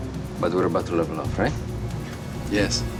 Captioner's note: speaks foreign language